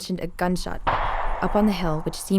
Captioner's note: gunfire booms